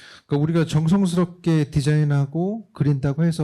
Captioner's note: speaking korean